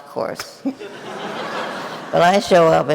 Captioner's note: audience laughing